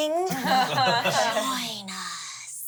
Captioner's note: everyone laughs